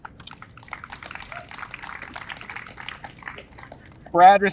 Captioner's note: audience applauds